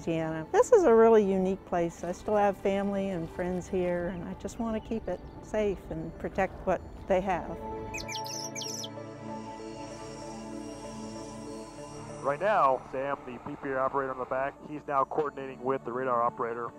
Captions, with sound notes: This is a really unique place. I still have family and friends here and I just want to keep it safe and protect what they have. [ Birds Chirping ] [ Jet flying ] >> Right now, Sam, the PPA operator in the back, he's now coordinating with the radar operator